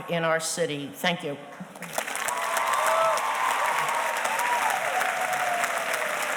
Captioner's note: audience cheers and applauds